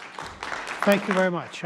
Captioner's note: audience applauding